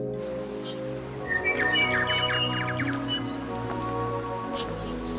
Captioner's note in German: Vögel zwitschern